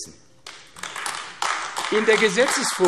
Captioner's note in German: Beifall AfD